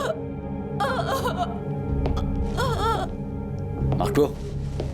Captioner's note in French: Toux, gémissements